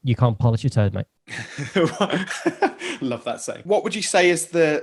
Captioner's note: laughing